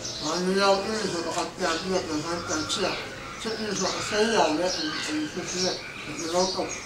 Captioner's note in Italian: parla birmano